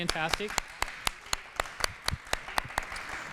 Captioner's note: applause